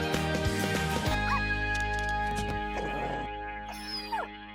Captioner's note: dog whining; dog barking; dog whining